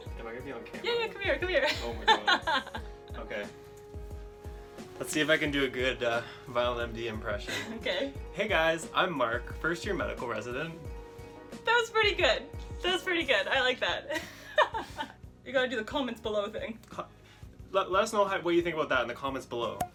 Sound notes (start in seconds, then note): 1.6 laughs; 14.1 laughs